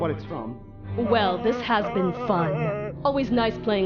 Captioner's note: Penwood Whimpering